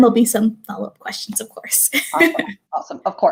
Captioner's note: laughter